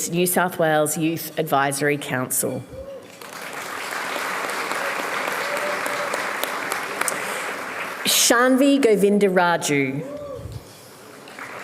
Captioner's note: applause